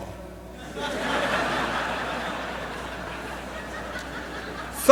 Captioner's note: laughter